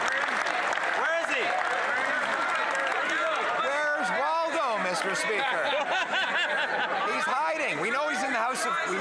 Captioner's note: some Applause